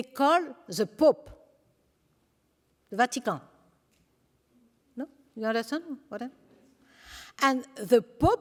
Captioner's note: french